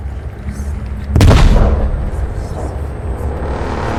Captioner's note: gun blaring; pensive music continues